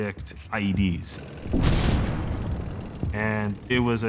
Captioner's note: device explodes